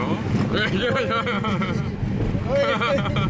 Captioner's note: laughs